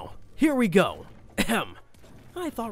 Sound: clears throat

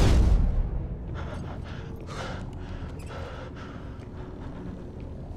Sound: shaky breaths

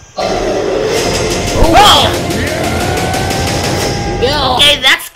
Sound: everyone exclaims when the Apes roar

